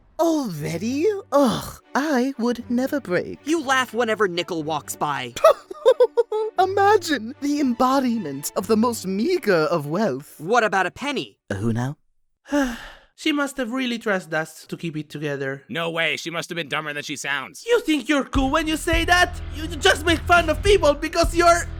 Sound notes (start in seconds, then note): 12.4 sigh